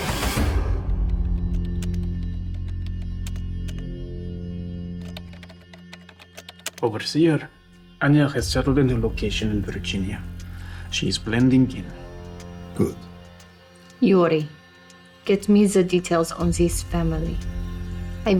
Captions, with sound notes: (slow music) (keyboard clacking) - Over here, Anya has settled in her location in Virginia. She is blending in. - Good. - Yuri, get me the details on this family.